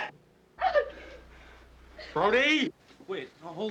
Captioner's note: whimpering